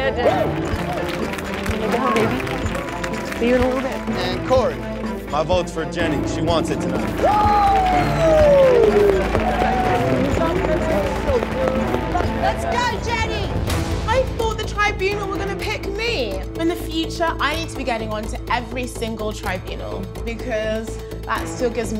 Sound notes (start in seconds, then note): 0.2 applauding; 6.6 cheering and applauding